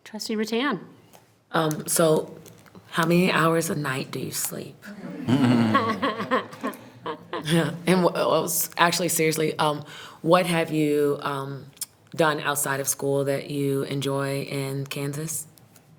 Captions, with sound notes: Trustee Rattan. - So how many hours a night do you sleep? (members laughing) Yeah, and actually, seriously, what have you done outside of school that you enjoy in Kansas?